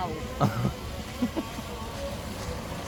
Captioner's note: chuckles